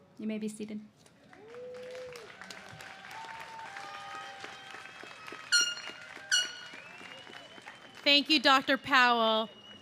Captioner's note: cheers and applause